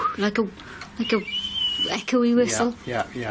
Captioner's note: whistling